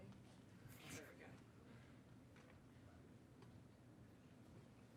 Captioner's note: speaking faintly